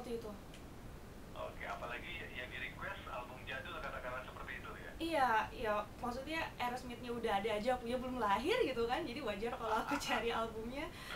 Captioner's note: laughing